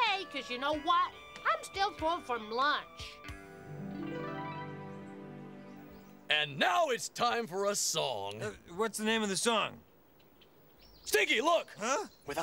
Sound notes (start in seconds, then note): 3.6 magical sound; 12.2 whispers